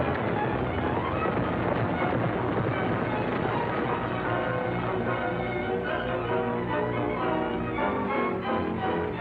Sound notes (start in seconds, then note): 1.7 horses galloping; 1.7 wagon rattling